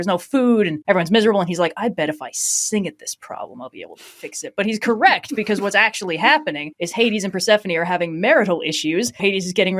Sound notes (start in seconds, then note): 4.1 laughing; 4.3 laughs